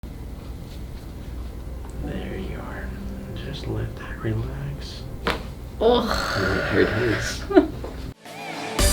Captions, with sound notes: - There you are. Just let that relax. (satisfying popping noise) (grunts) (laughs)